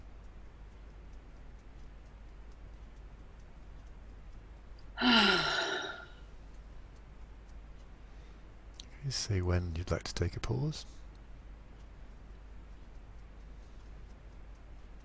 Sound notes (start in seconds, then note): 5.0 sighs